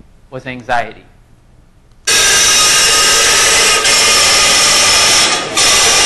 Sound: loud piercing noise

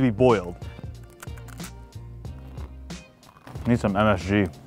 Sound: crunching

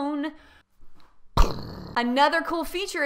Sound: mimics explosion

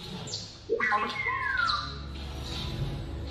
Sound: droid Chirps

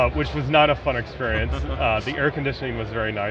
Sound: laughing

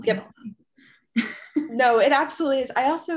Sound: laughing

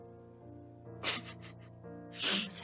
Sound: Remus cries

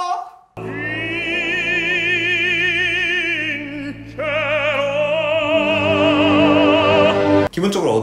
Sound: ring sound

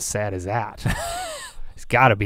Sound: laughs

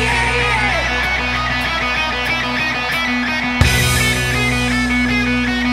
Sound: audience cheering

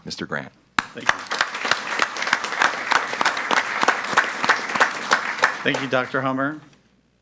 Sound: audience applauds

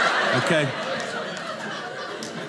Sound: audience laughing

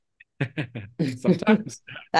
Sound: laughs

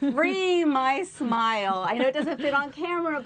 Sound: laughter

